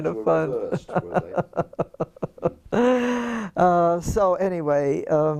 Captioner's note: laugh